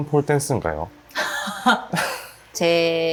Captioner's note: big Laugh